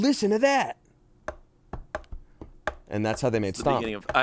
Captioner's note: taps fingers